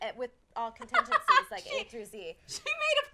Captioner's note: laughing